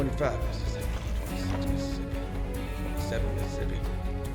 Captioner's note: counting